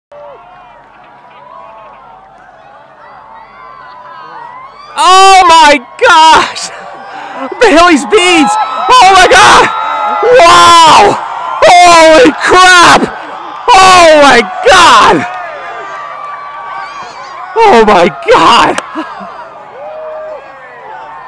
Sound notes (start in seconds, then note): 0.0 crowd cheering; 4.9 someone shouting like an idiot; 8.0 crowd cheering louder; 9.7 crowd getting louder; 15.6 crowd cheering loud; 19.1 crowd cheering